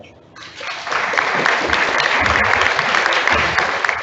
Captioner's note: audience applauds